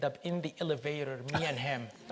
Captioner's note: all laugh